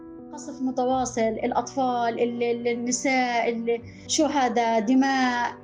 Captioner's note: speaking in foreign language